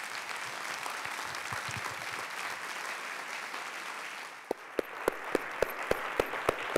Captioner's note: audience applause